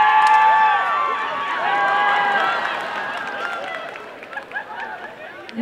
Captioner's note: cheering and applause